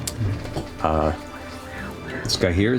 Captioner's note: quietly